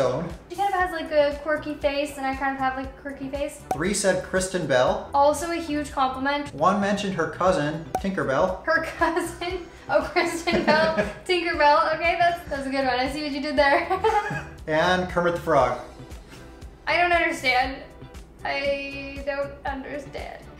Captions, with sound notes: She kind of have like a quirky face and I kind of have like a quirky face. 3 said Kristen Bell. Also a huge compliment. 1 mentioned her cousin, Tinkerbell. Her cousin? (Giggles) Oh! Kristin Bell [Laughs] Tinkerbell...okay, that's a good one. I see what you did there. [Laughs] And Kermit the Frog? I don't understand. I...don't understand.